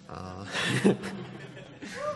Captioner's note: laughter